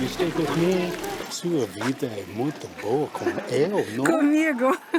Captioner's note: in Portuguese